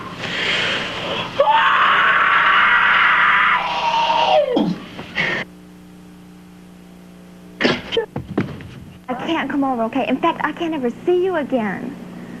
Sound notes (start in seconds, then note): 1.3 some kind of karate scream